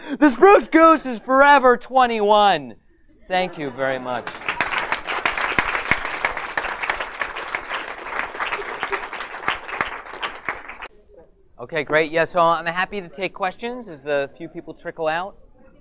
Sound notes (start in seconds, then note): 3.7 audience laughter and applause